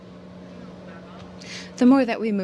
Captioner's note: speaking french